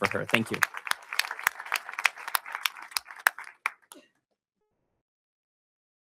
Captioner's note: audience applauding